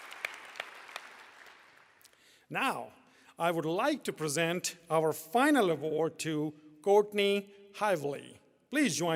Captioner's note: applause